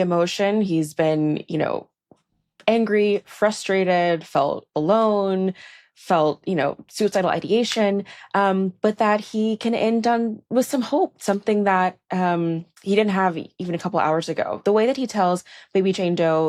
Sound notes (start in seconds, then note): none